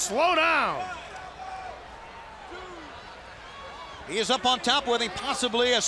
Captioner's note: crowd chatter